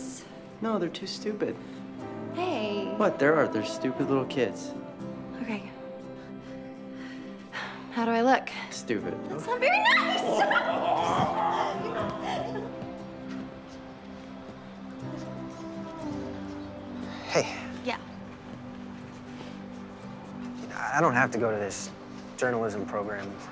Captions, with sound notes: - No, they're too stupid. - Hey! - What, they are, they're stupid little kids. - Okay. How do I look? - Stupid. - That's not very nice! [laughing] - Hey. - Yeah. - I don't have to go to this journalism program.